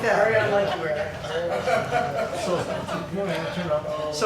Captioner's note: people laughing